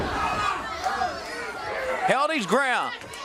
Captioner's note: crowd chatter